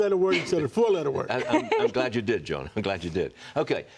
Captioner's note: laughter